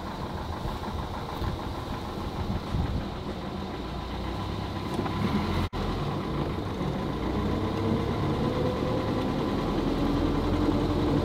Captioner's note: engine revs; engine sounds